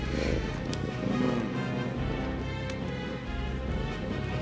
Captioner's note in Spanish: Xax roncando